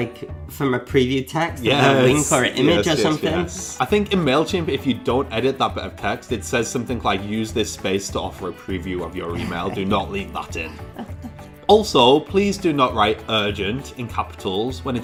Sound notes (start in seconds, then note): 10.8 laughter